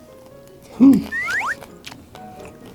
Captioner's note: sluuurp